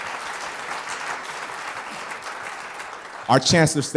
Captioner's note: applause